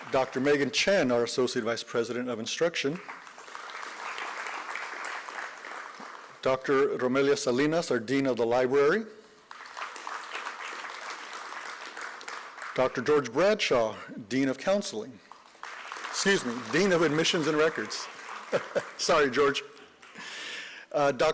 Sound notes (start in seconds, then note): 2.8 applause; 9.4 applause